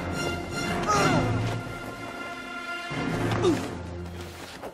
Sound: grunting

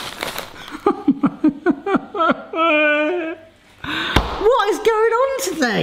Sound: sobbing dramatically

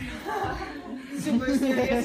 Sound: laughs

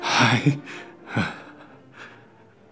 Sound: gasp

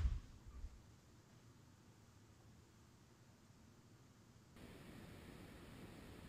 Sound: silence

